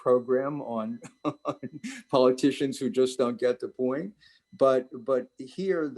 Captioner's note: laughs